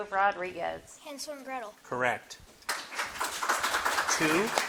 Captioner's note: audience clapping